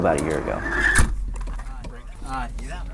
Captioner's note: car door closes